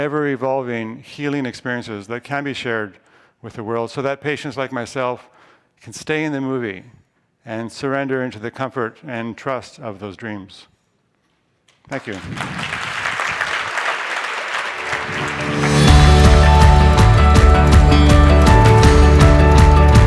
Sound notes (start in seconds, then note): 11.8 applause; 14.7 upbeat music